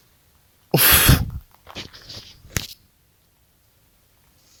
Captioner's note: scoffs